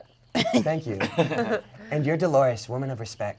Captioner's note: players snicker